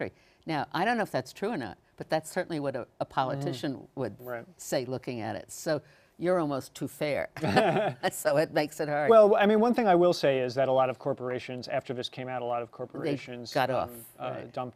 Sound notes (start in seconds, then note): 7.4 both laugh